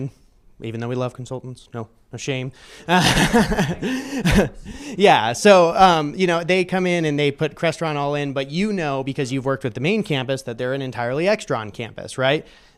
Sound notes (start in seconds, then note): 2.9 laughter